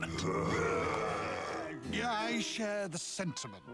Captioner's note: cheering